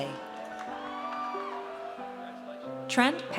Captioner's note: audience cheers